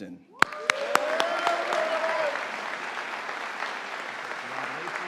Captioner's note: audience applauding